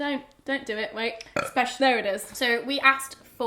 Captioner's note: belches